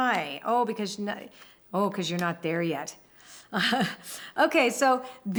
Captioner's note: laughs